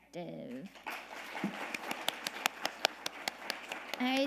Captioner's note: audience applauding